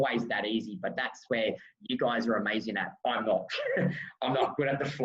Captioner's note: chuckles